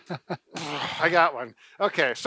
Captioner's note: laughter